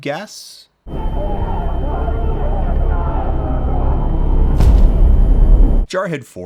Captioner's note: muffled, distant yelling